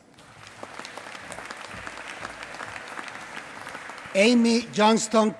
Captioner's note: applause